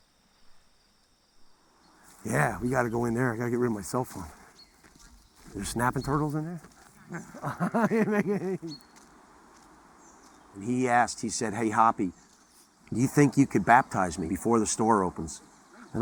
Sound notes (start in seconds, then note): 7.3 laughs